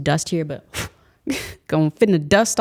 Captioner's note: exhales; laughs